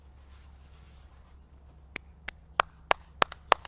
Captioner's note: fabric rustles; clapping